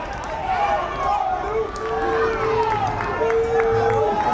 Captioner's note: fans yelling